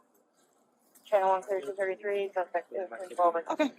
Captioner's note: radio chatter